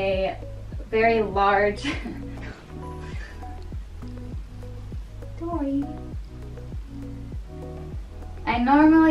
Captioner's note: laughs & pets super cute puppy